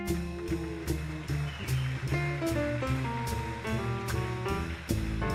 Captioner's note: audience applauding